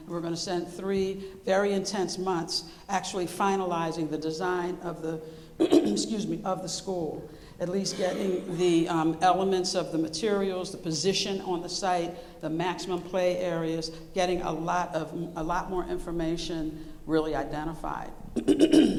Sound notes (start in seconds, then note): 5.6 coughing